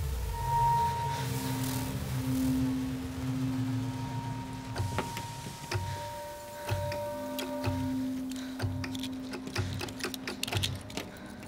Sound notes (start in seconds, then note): 0.1 sound crackles like a tv with bad signal; 6.6 click, clack